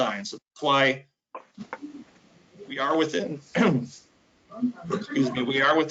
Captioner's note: coughs